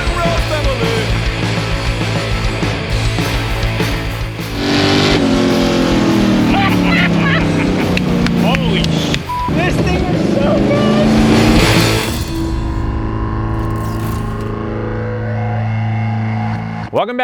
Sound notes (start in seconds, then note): 4.9 engine revving; 6.2 friends laughing; 7.8 hands clapping; 9.2 beep; 13.0 upbeat rock music fading